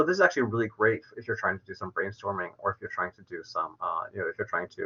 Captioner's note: verbal stutters